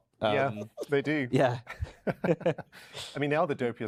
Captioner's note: laughs